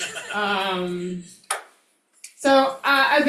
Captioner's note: crowd members chuckling